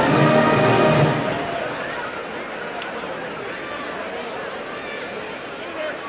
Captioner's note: crowd murmurs